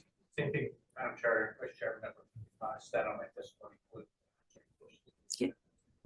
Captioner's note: faintly speaking